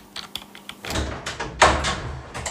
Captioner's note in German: Türgeräusch